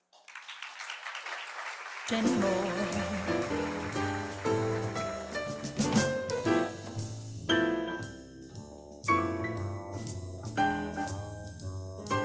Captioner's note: applause